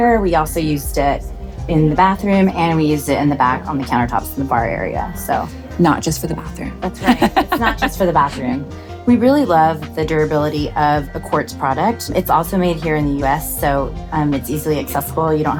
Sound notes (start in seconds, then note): 7.0 laughs